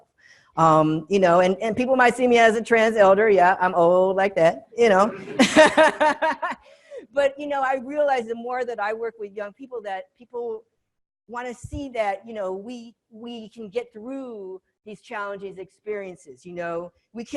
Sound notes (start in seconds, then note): 5.1 all laughing